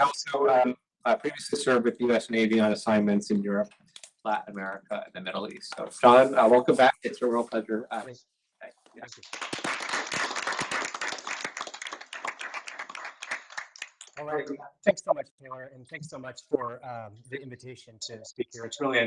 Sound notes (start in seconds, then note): 9.0 applause